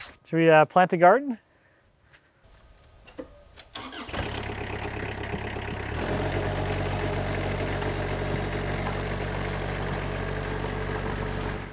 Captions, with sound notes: Should we plant a garden? (tractor rumbles)